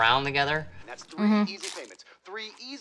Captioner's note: food crunching